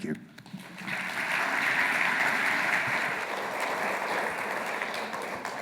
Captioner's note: audience applauding